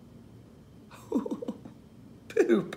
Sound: man laughing

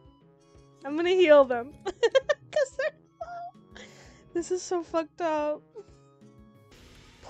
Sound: laughs

